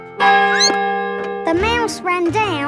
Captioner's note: clock chimes; squeaks